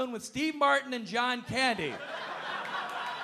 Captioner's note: audience laughing